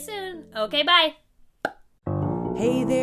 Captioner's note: pop!; jazzy singing